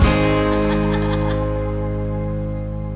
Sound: laughing

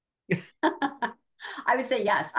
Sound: laughing

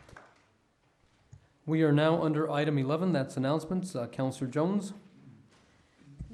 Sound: applause

